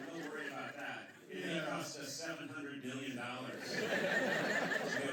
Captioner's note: laughter; laughter